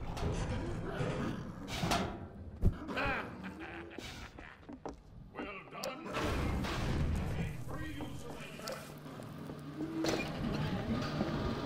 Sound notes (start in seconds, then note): 3.0 laughter